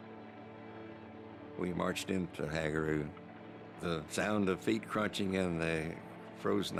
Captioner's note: none